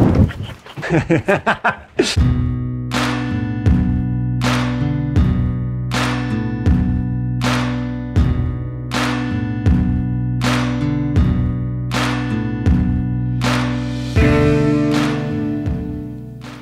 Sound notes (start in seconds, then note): 0.0 laughing